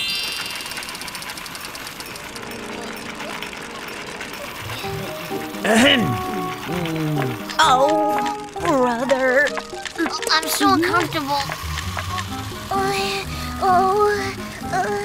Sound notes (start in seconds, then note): 5.7 Blo clears throat; 12.6 Tayo mumbles